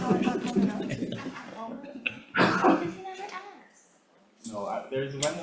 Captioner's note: members chattering